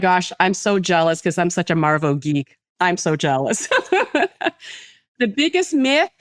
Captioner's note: laughs